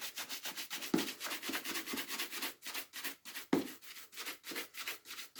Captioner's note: brush scratching